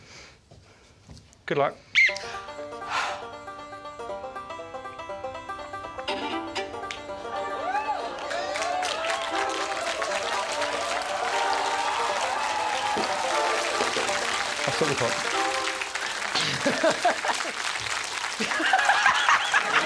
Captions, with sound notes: -Good luck. -[whistle blows] [upbeat music] [crowd cheers] I'll stop the clock. [Desiree laughs]